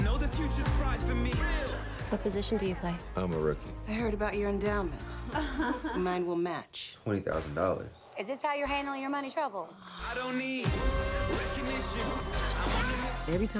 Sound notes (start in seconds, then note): 5.3 women giggling; 10.1 rhythmic pop music